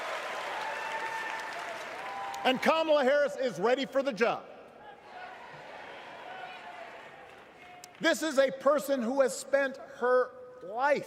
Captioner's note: cheers